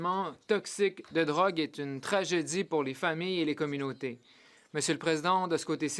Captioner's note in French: voix de l'interprète